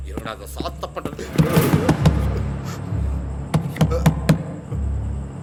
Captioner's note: banging on door